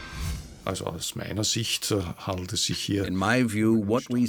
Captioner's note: speaking German